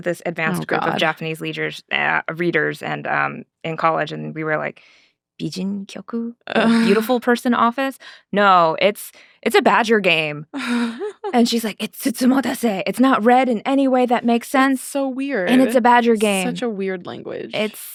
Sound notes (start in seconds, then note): 5.4 speaking Japanese; 11.9 speaking Japanese